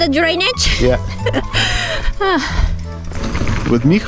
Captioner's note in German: lacht